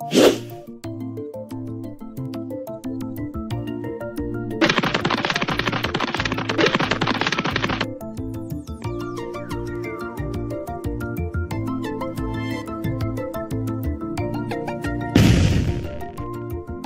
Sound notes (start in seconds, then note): 0.1 whoosh; 4.6 pitter patter pitter patter; 15.1 crash!